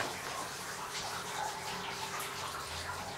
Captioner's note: water splashing